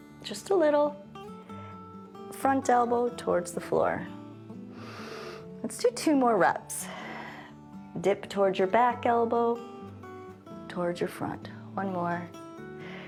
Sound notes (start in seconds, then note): 4.7 inhales; 6.8 exhales